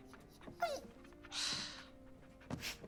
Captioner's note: Earl whines